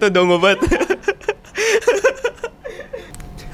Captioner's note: laughing tiredly